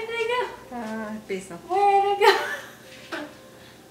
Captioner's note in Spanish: risas